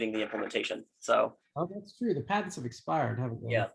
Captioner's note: tender Voice